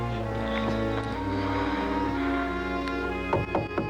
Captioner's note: moans; Knocking